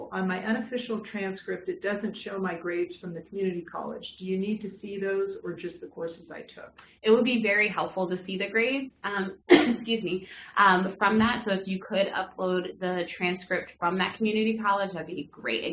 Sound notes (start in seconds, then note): 9.5 cough